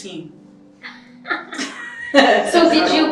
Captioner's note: laughing